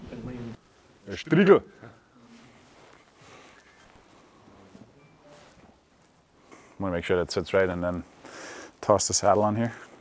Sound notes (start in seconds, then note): 1.4 speaking in German